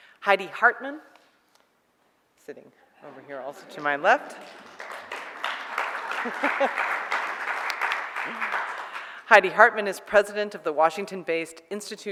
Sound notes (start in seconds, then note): 3.4 audience applauds; 6.6 laughs